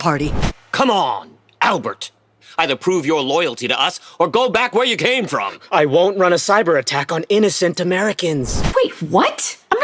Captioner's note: sound of a slap; swish sound to new flashback; swish sound to new flashback